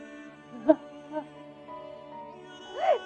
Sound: crying

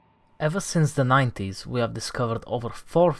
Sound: none

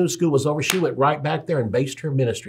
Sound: claps

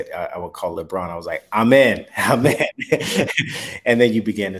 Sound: chuckles

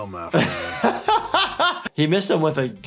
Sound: laughs

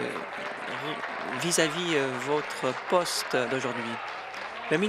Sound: applause

